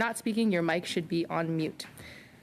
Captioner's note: speaking French